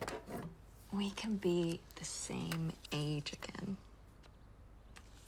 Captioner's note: none